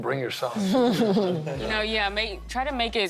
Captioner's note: laughing